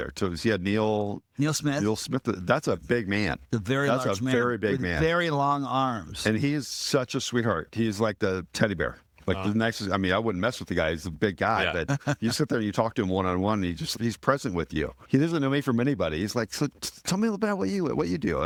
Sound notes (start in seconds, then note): 11.5 laughing